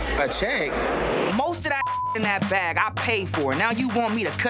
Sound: beep

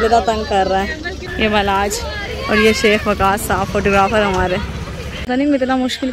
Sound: ha ha

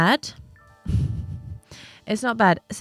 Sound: exhales sharply

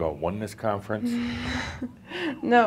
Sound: chuckles

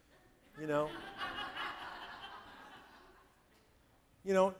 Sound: audience laughing

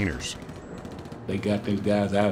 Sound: guns firing

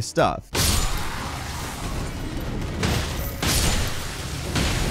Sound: lightning cracks

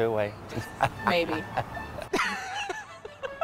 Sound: laughs

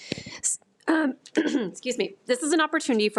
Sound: clears throat

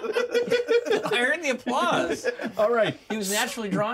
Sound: laughs

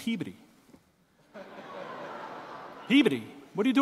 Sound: audience laughing

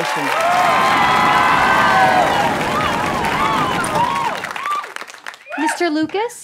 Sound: cheering

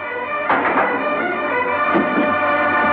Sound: knock On Door

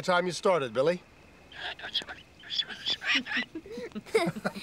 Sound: squawking; laughing

